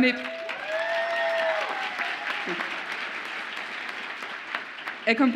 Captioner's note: audience applauds and cheers